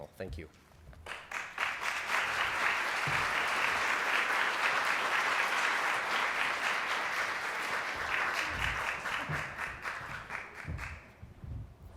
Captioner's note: applause